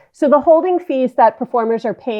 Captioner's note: none